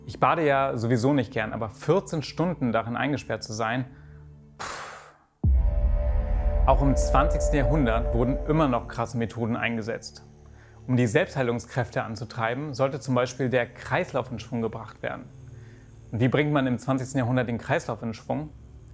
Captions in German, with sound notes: Ich bade ja sowieso nicht gern, aber 14 Stunden darin eingesperrt zu sein ... (Gequältes Seufzen) Auch im 20. Jahrhundert wurden immer noch krasse Methoden eingesetzt. Um die Selbstheilungskräfte anzutreiben, sollte zum Beispiel der Kreislauf in Schwung gebracht werden. Und wie bringt man im 20. Jahrhundert den Kreislauf in Schwung?